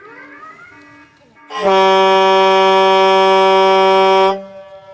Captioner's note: air Horn